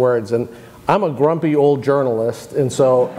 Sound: crowd laughs

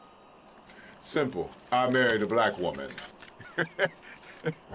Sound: chuckling

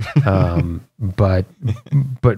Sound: laughter

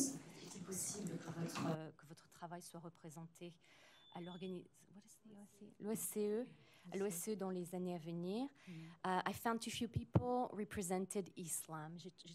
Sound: french

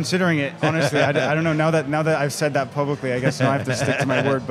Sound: laughs

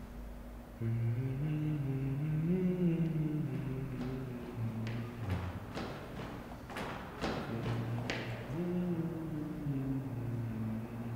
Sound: sweet male voice / humming

